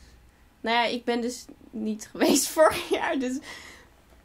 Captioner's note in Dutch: lacht